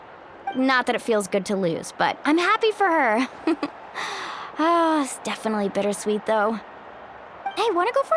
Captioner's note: sigh